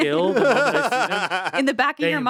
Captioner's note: Anthony laughs